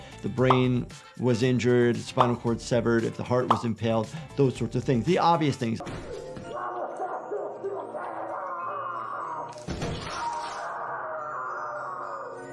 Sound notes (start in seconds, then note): 7.0 bones crunching; 7.0 victim screaming